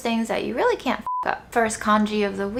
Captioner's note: beeps